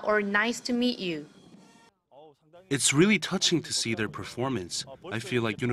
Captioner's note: Korean